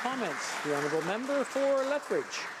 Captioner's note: applause